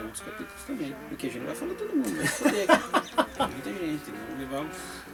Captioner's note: laughs